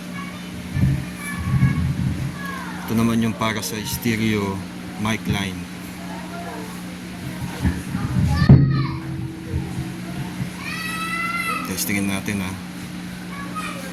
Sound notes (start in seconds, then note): 8.3 kids shouting at the background